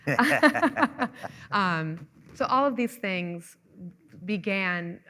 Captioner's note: laughing